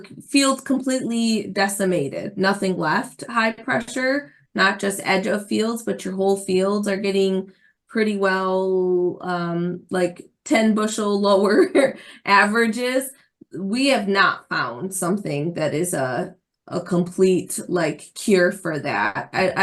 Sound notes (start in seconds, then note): 11.9 laughs